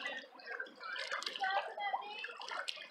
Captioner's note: shouting in the background